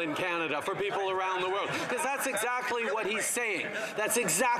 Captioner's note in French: voix de l'interprète